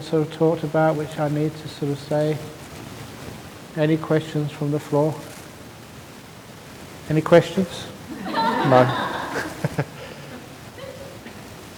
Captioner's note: laughter